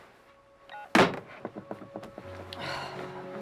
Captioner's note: phone beeping; phone thudding; somber music